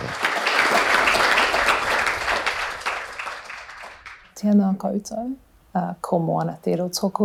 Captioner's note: applause